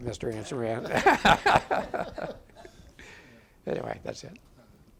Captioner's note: audience laughing